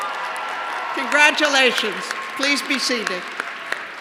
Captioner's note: cheers and applause